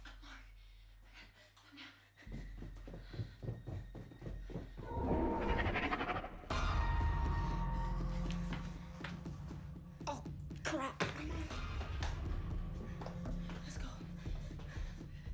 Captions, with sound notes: - Mark, come down. (dinosaur growls) (ominous music) Oh crap. Let's go.